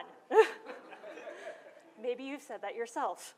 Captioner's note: laughter